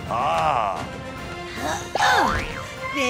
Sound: grunting

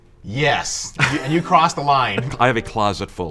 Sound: laughs

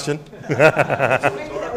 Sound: laughter

